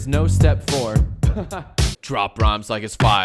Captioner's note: laughs